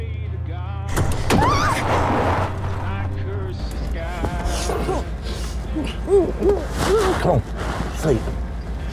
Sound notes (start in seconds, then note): 1.3 Brakes skid, Stephanie screams, slams against dash; 4.2 muffled grunting